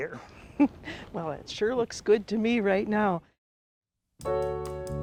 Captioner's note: chuckles; jazzy music